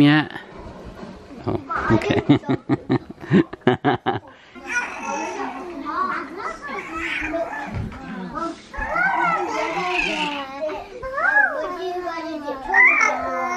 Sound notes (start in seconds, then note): 3.2 laughing; 6.6 cooing and laughing